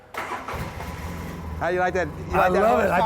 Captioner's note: engine rumbling